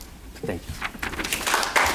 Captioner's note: paper shuffling; crowd applauding